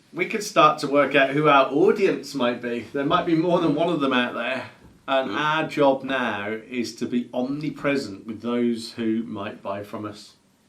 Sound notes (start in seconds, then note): none